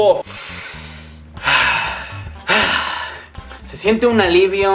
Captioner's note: breathing with relief